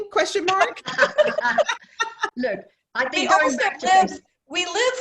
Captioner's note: laughter